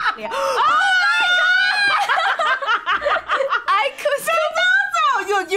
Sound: laughs

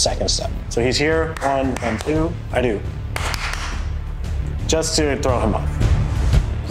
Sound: clapping

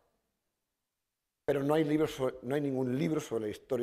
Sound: speaking spanish

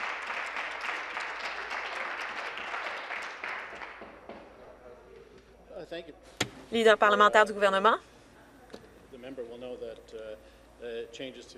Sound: some Applause

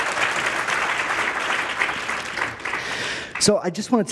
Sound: applause

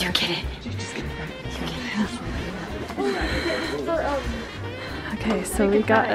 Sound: whispering; mom, whispering

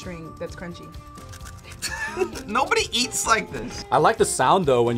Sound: laughs

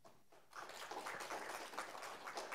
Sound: applause

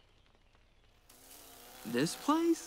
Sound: flies buzzing

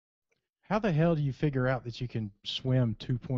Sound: voiceover

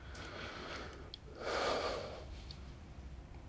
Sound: sigh

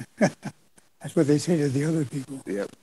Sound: laughs; laughing

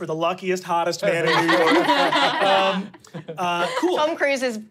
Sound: laughing

